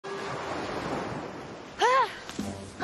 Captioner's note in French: waves crashing